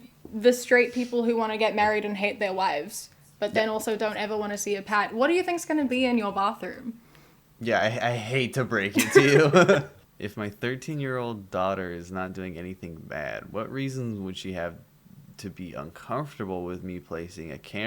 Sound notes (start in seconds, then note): 8.9 laughter